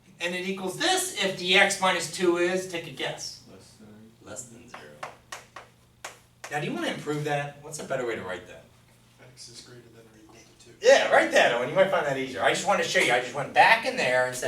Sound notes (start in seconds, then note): 3.9 voiceover; 9.4 voiceover